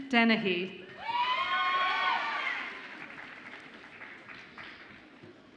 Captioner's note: audience applauds and cheers